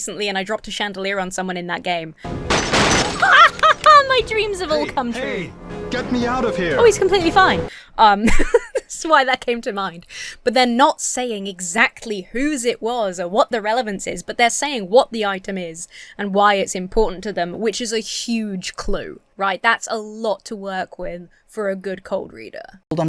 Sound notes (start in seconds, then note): 2.3 glass shatters; 3.2 laughs; 8.2 laughs